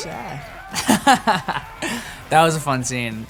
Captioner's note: laughing